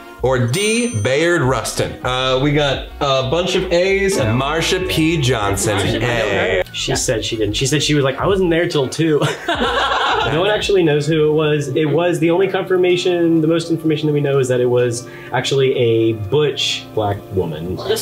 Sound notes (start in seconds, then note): 9.2 all laughing loudly